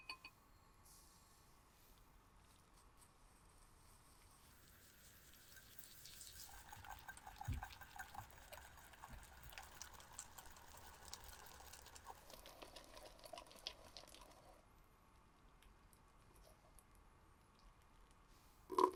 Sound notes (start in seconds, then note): 6.6 bubbles